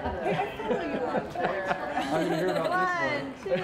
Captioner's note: laughter